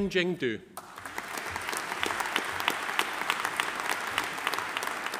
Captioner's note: audience applauding